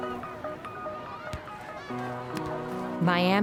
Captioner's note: seagulls squawking, waves lapping; people calling and talking in background